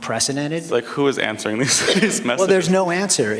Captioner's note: laughter